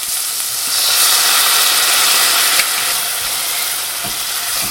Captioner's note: hissing